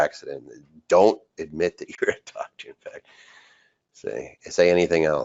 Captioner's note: laughs